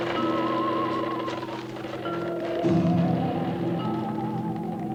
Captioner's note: cart wheels creaking